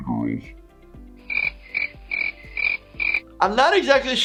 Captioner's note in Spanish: grillos chirriando